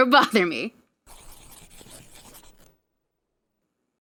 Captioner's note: sounds of drawing in the sketchbook